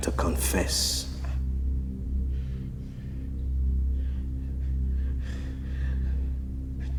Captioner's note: tense dramatic music; governor panting